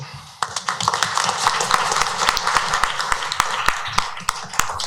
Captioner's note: applause